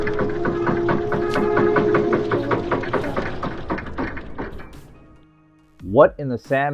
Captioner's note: TV Lowering Groan